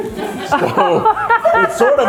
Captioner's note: laughing